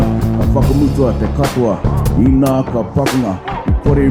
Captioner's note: non-english speech